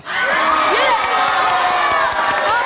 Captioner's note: audience cheering